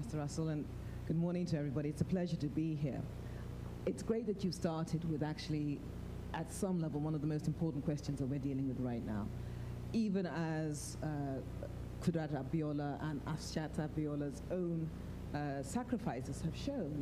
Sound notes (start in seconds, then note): none